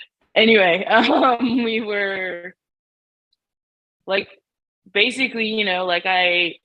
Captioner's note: laughs